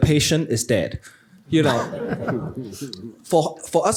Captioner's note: chuckling